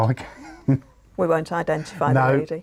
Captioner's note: laughs